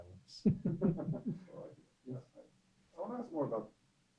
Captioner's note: laughter off mic